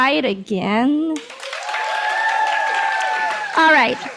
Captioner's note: clapping and cheering